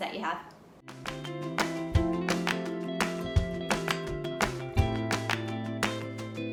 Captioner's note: bright upbeat music; hands clapping